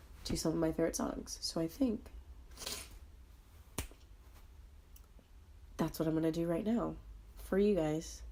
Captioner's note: sniffle, snap